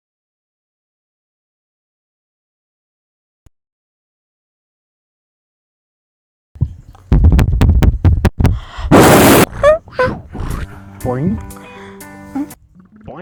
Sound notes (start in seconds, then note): 7.1 aggressive tapping; 8.4 inhale